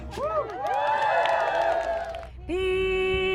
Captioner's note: singing & drumming; cheering & clapping